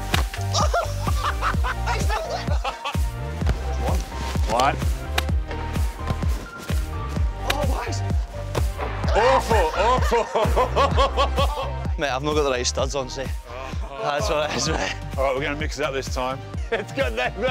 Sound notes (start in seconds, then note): 0.5 laughter; 9.1 laughter